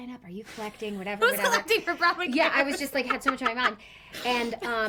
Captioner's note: laughs